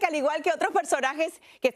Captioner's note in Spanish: HABLAN EN INGLéS